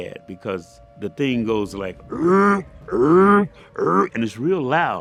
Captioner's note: alarm noise